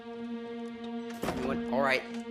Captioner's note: door closes